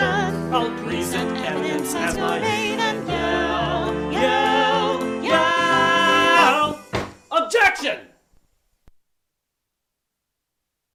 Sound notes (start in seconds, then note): 6.9 thud!